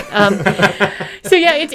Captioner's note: laughing